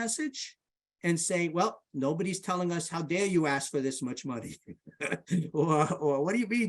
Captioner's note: laughs